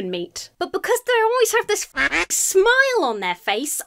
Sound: duck quacks

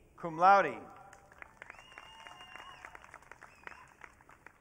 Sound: audience cheering

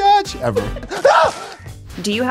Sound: yelping

